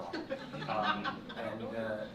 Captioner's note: laughter